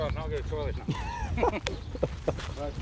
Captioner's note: laughter